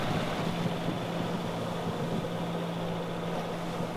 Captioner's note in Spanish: ronroneo del motor del barco